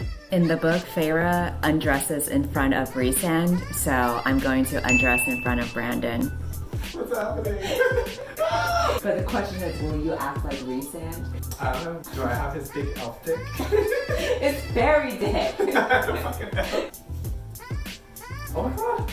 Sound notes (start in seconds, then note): 8.4 𝘤𝘰𝘯𝘧𝘶𝘴𝘦𝘥 𝘴𝘤𝘳𝘦𝘢𝘮𝘪𝘯𝘨